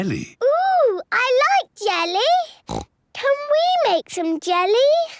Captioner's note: snorts